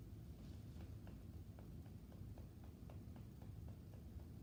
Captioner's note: gentle tapping